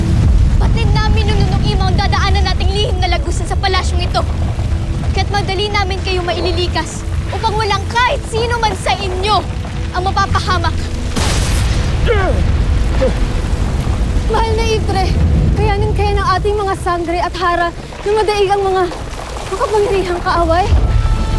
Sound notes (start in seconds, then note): 0.0 powerful blast nearby; 0.0 rumbles, squeals & gasps; 10.7 powerful blast nearby; 11.1 rumbles & gasps; 20.7 powerful blast nearby, rumbles; 21.1 ethereal music playing